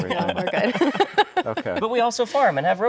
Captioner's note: laughing